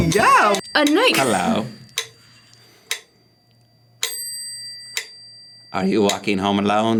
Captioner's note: metronome clicks